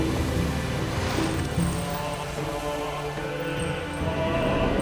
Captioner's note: jewelry jangles